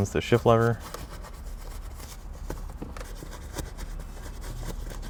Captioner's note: brush scrubbing